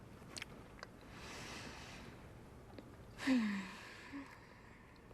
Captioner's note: sighs